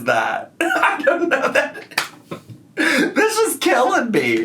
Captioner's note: laughs